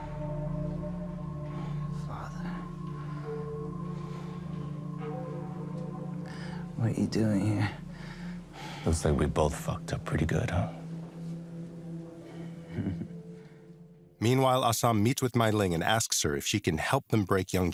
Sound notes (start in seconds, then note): 2.2 in a weak voice; 12.6 chuckles